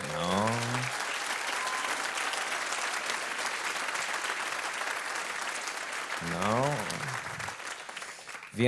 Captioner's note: applause